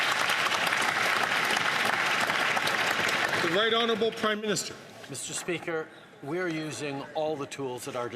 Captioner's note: some Applause